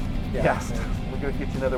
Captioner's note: laughing